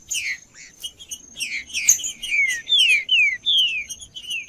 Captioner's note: trinca ferro cantando